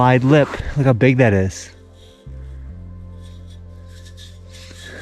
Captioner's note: dirt scraping